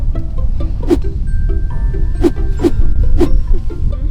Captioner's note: swishing